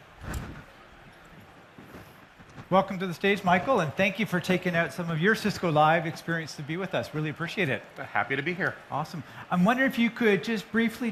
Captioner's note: applause